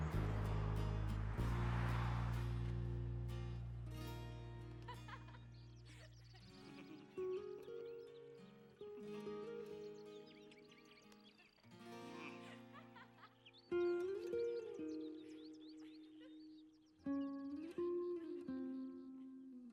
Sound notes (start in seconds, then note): 4.8 Londyn laughs